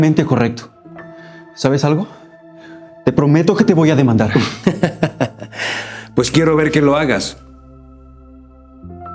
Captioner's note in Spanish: risas